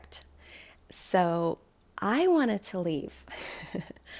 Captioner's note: chuckles